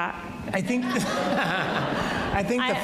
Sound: audience laughs

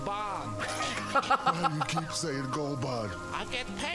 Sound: laughs

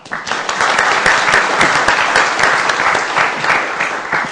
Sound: applause

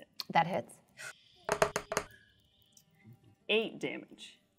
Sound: dice rolling

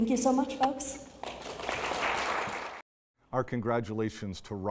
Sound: audience applauding

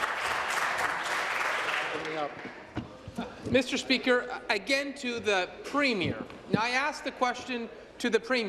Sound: applause

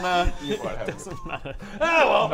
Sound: laughing

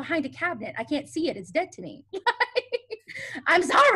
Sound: laughs

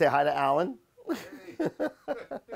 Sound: chuckles

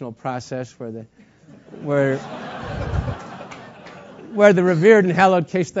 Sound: laugh

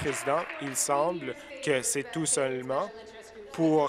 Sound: applause

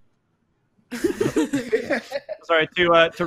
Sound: laughing

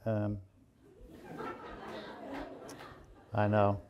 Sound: audience laughing

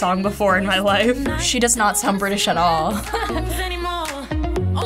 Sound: laughs

